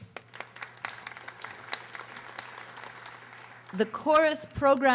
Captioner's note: audience applauding